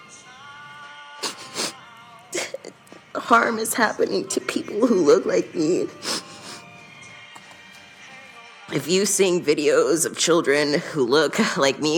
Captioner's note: crying